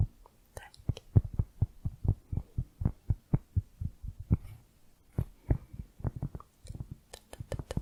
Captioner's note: tapping on cork